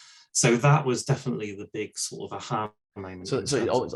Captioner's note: audio skips